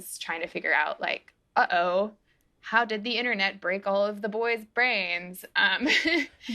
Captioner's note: laughter